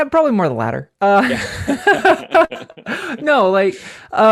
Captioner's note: laughs